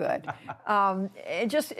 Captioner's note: laughter